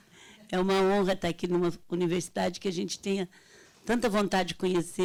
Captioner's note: speaking Portuguese